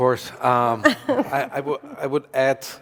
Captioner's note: laughs